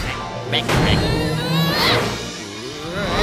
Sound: grunting

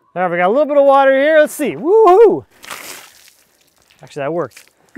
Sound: water splashing

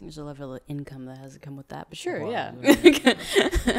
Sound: laughs

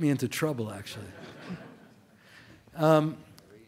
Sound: laughter

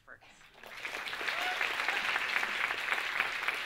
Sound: audience claps

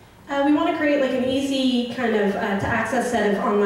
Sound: voiceover

